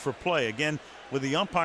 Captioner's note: cheering